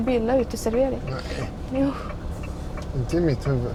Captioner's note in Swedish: harklar sig